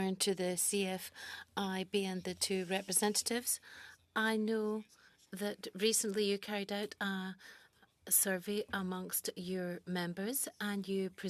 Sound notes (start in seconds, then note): 5.2 speaking French